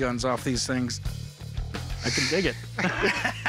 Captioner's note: laughing